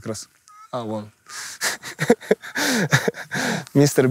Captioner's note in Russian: смеется